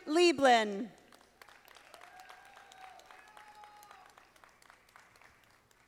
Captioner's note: audience applauding